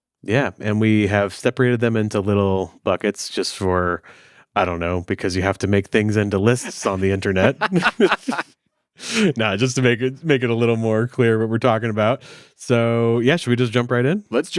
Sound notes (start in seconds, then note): 6.6 all laughing